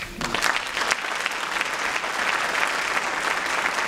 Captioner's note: applause